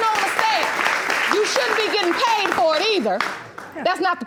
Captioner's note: audience applauding